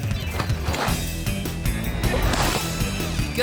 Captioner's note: rousing music; snowboard scrapes